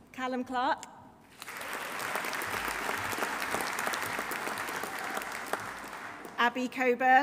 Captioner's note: audience applauding; audience cheering